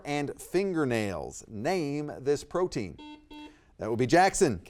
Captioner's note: buzzer beeps